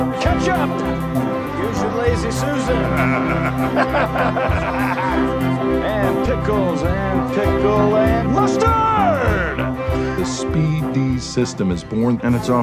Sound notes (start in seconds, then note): 2.5 laughs